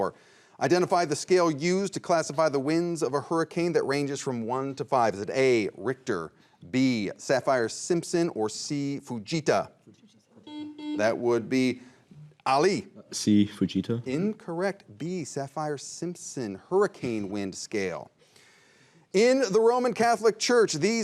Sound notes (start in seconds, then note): 9.8 team whispering; 10.4 buzzer rings